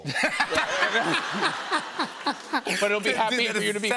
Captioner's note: laughter